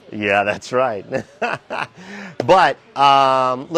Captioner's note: chuckling